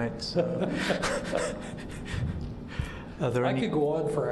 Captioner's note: laughter